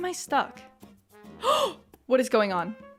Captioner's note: gasp